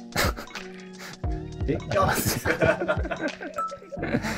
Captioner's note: laughing